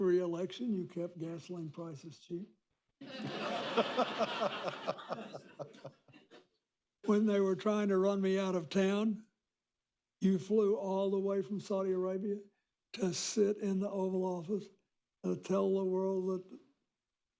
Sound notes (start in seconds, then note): 3.0 laughter